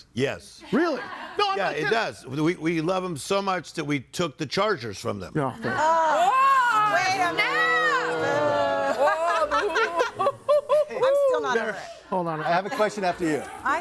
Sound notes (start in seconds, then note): 7.8 audience booing; 8.8 laughs